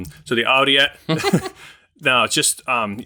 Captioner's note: chuckling